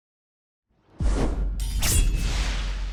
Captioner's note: swoosh; sword slash